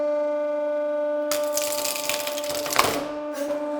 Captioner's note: wood breaking